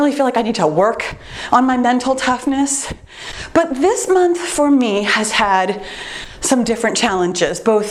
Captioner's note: none